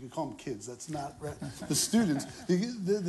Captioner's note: laughter